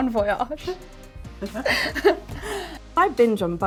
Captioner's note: laughing